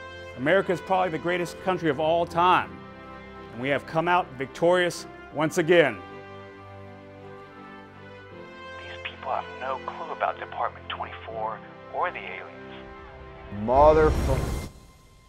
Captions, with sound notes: America is probably the greatest country of all time, and we have come out victorious once again. (whispering) These people have no clue about Department 24 or the alliens. (reporters asking questions in background) Motherfu-